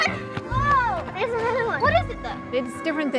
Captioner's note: kids playing